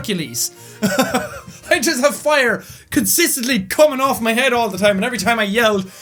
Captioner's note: laughs